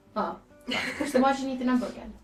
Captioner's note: laughing